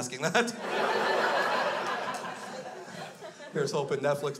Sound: crowd laughs

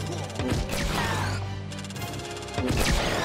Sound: video game sounds

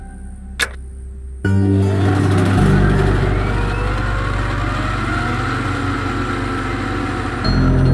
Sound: whirring

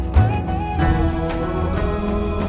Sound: vocalisation

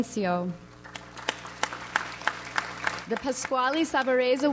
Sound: audience applauds

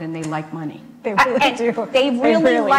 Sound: laughs

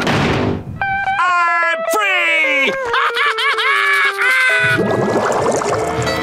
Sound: laughing

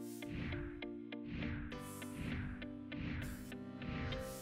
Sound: logo whooshing

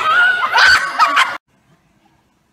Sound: screams; laughing

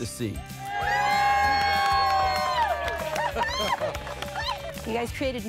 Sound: crew cheering; squealing

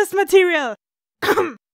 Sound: cough

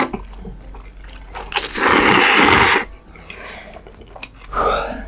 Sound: inhaling hard

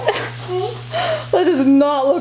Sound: laughs

